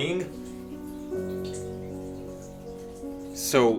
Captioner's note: dripping water